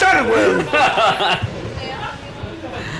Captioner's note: laughs